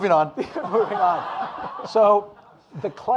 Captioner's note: audience laughing